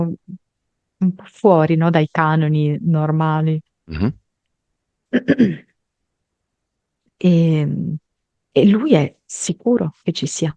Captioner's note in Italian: schiarire la voce